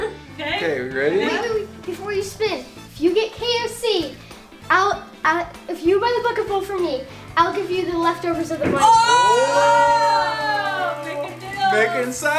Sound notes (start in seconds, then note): 9.3 yelling